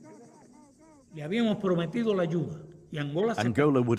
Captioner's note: speaking spanish